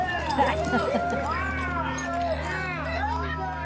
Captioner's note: coins clanking; gang cheering